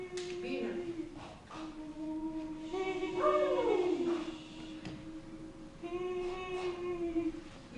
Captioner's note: howls and shushing